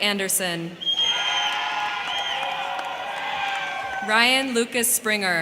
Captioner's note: crowd cheering; crowd clapping